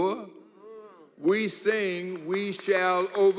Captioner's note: audience murmur